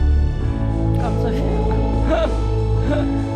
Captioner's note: laughs